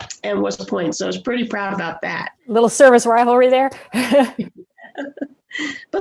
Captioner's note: chuckling